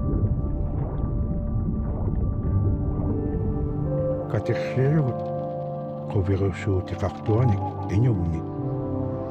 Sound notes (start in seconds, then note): 4.5 speaking in foreign language